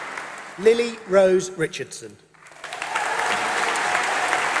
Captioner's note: applause